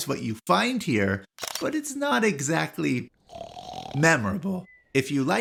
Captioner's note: snoring